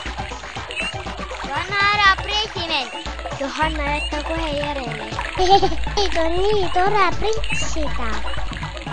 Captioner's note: giggle